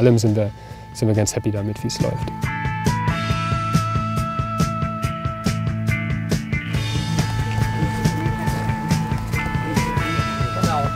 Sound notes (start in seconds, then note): 5.4 fast, rhythmic music; 7.6 quiet babble of voices